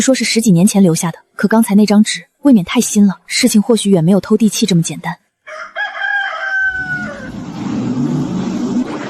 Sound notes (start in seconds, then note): 5.4 rooster crowing